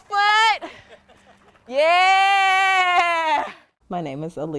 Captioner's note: laughs